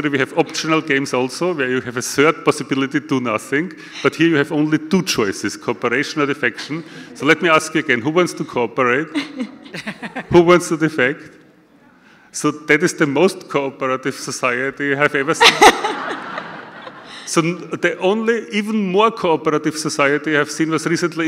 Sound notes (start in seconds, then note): 15.4 audience laughter